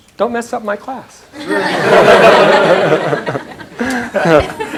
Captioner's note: laughter